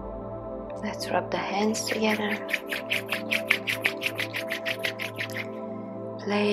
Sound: loud rubbing

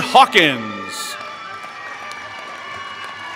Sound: applause

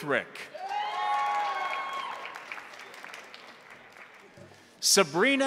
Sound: crowd cheering; crowd applauding

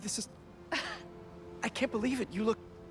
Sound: laugh

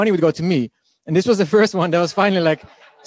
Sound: laughing

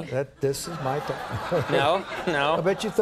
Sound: laughter

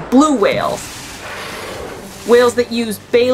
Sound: noise of water spouting

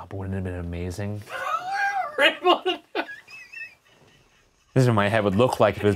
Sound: laughing

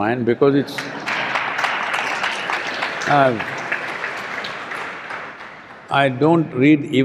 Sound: applause

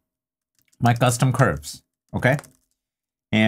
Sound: keyboard clacking

